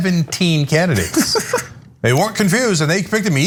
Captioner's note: laugh